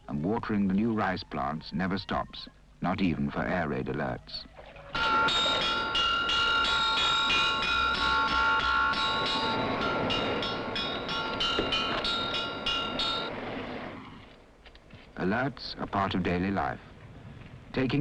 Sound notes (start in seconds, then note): 4.9 metal clanging